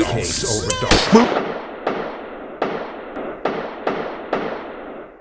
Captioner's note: gunshots echoing